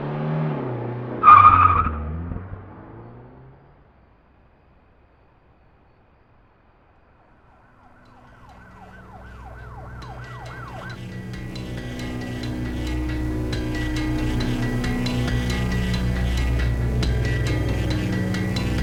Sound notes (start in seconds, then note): 0.0 car screeches away; 7.8 police sirens approach